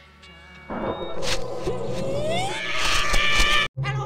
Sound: mellow guitar music; loud TV sounds; screams; growls

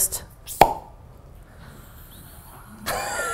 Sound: tennis racket sound

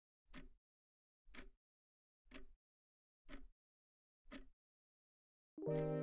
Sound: ticking clock

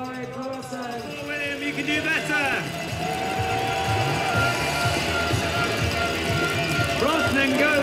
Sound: cheering

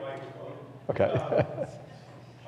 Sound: laughs

